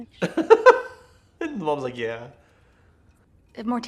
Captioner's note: laughing